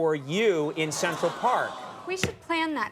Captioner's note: audience awwing